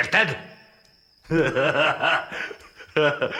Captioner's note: laughs